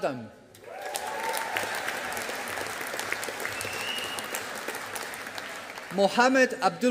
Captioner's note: audience applauding